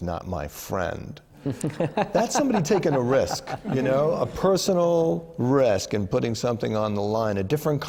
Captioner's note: laughter